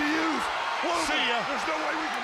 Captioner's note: crowd chatter